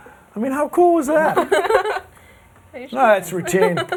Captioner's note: laughter